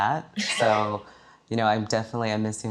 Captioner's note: laughing